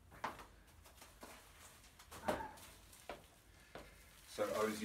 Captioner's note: soft rustling